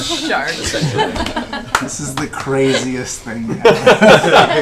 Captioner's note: laughing; shushing